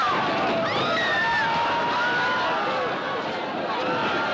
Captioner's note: Mulher gritando; Gritando